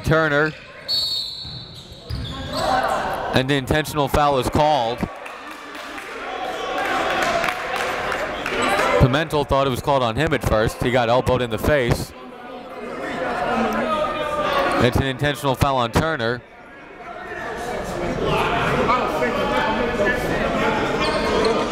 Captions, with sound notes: Trying to get to Turner. (whistle blows) And the intentional foul is called. (applauding) Pimentel thought it was called on him at first. He got elbowed in the face. It's an intentional foul on Turner.